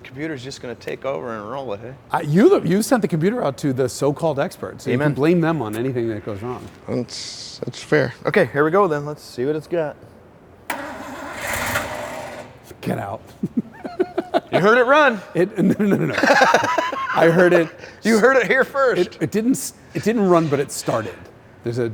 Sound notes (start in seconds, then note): 10.7 engine revs; 13.2 laughs